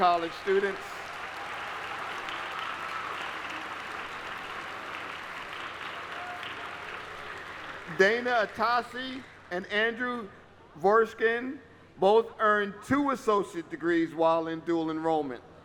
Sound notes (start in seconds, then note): 7.7 applause